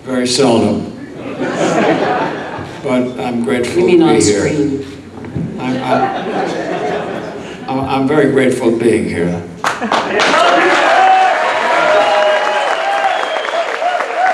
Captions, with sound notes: Very seldom (audience laughs) but I'm grateful to be here. - You mean on screen. - I'm very grateful being here. (audience clapping and cheering)